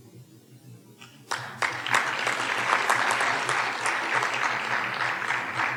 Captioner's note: audience applauding